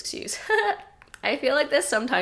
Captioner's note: giggles